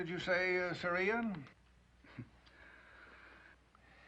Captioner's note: chuckles